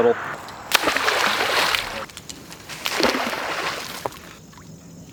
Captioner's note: water splashing